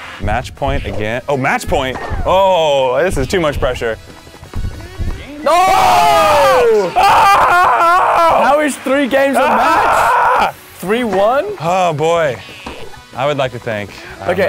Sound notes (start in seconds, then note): 5.4 cheers; 5.7 wails